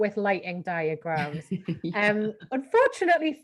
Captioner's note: giggles